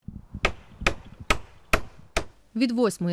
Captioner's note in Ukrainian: стукіт молотка